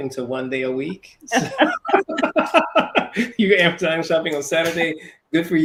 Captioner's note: laugh